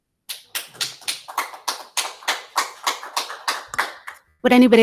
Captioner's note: audience applause